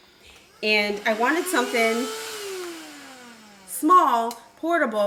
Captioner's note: vacuum revving